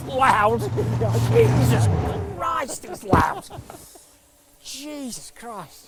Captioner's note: laughing